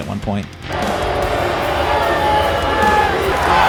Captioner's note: crowd booing